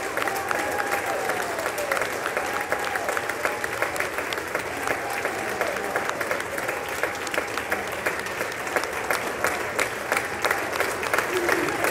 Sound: applause

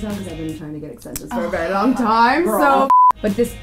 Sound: sighs

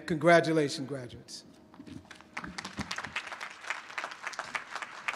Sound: applause

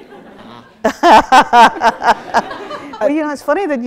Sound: laughs

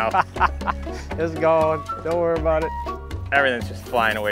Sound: laughs

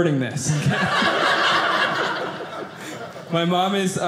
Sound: audience laughing

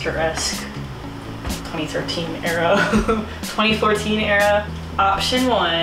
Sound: laughs

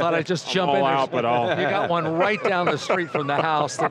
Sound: laughs

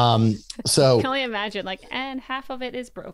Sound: laughs

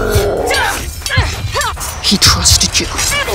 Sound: roaring; metal clashing

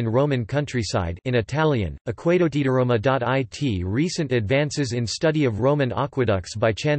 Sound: in Italian

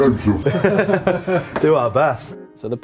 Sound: laughs

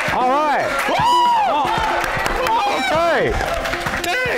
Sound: applause

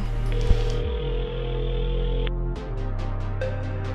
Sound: phone ringing

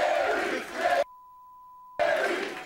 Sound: beep

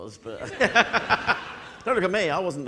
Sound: audience laughing

